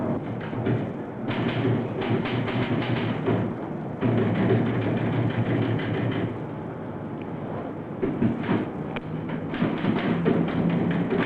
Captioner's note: typing